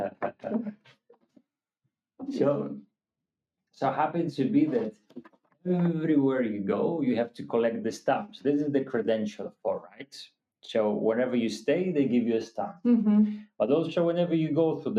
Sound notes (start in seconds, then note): 1.3 laughing